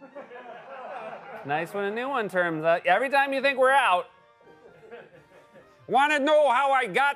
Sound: laughter; normal voice; light laughter

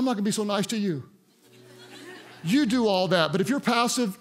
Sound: congregants laugh

